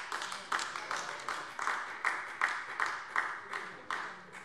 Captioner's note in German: Beifall AfD